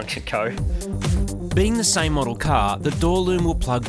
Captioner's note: voice over